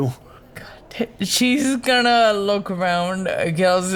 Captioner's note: whispers